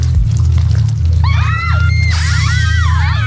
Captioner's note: screaming